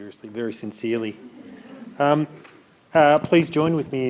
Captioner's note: attendees chuckling